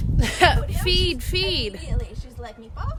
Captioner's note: laughing